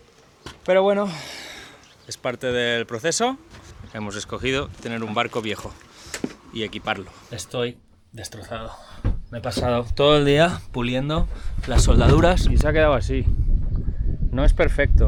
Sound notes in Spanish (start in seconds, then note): 1.0 suspiro